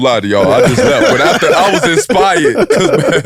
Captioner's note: group laughs